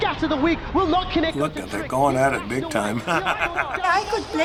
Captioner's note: chuckles